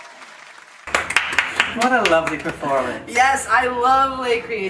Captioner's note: clapping